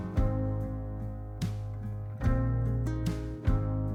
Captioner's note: none